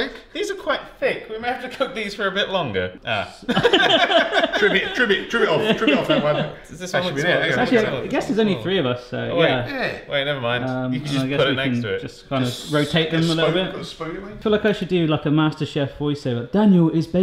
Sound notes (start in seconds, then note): 3.5 all laugh